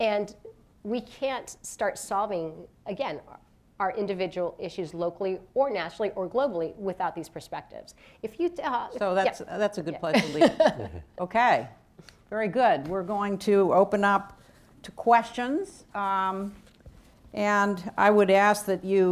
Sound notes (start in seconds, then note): 10.2 laughs